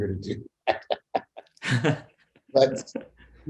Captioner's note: laughing